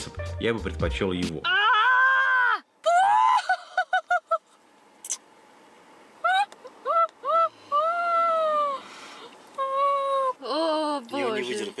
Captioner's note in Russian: крики